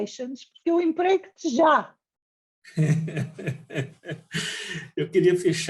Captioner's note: laughs